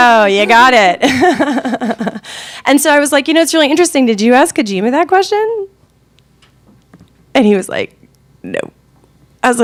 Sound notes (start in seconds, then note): 1.0 laughing